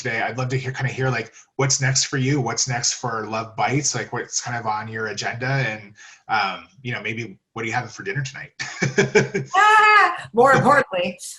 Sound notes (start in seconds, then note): 7.6 laugh